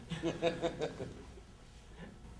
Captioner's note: awkward laugh